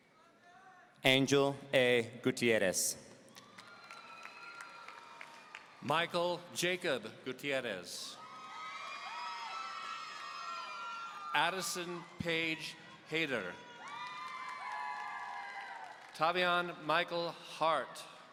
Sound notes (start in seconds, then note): 3.4 audience cheering; 8.2 audience cheering